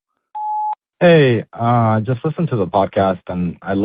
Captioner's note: beep